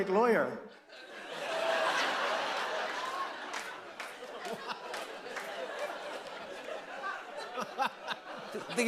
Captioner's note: laughter